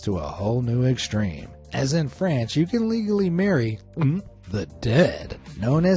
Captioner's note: gulps